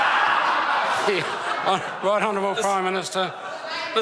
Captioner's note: laughter